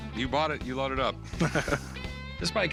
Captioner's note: laughter